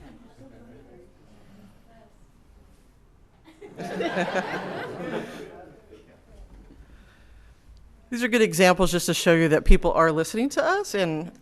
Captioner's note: laughter